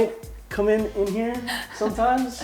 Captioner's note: laughs